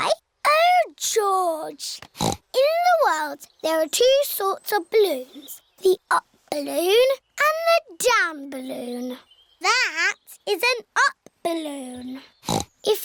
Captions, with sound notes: -Why? -Oh, George. (SNORTS) In the world, there are two sorts of balloons, the up balloon and the down balloon. That is an up balloon.